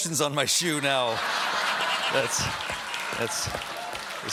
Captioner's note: laughter